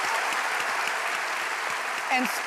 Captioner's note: applause